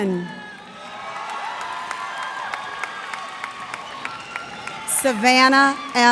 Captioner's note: cheers and applause